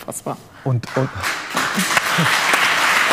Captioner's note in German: Applaus